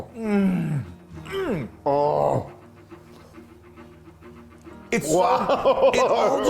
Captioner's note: grunting